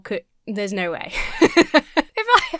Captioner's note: laughs